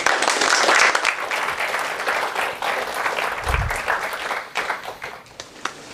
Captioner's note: applause